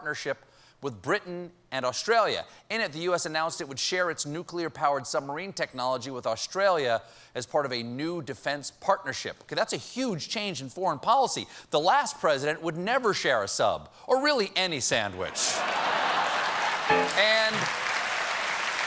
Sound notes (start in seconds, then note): 12.2 laughter; 12.2 piano riff; 18.4 applause